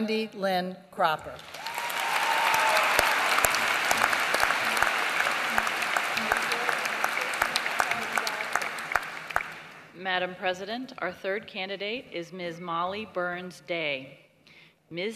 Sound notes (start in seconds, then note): 1.4 applause